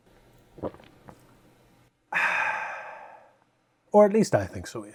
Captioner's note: gulp